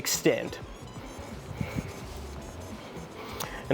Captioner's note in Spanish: respirando con dificultad